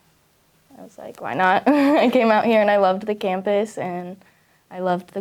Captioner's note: giggles